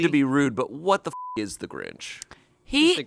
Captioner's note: beep